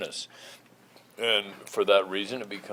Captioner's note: none